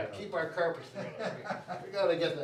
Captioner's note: laughs